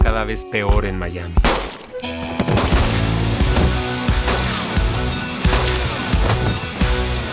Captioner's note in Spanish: Disparos